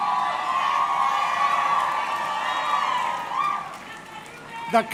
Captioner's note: audience cheering